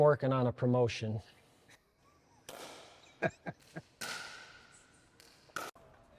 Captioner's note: laughs